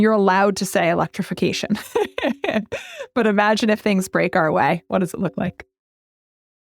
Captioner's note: laugh